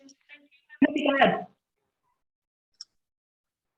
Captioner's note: background chatter